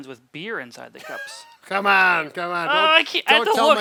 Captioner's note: chuckles